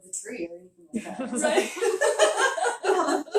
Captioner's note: laughing